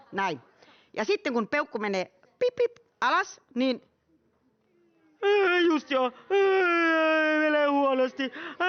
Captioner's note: crying